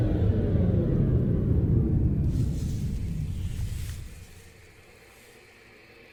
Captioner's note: Static